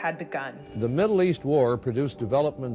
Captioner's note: soundbite of archived recording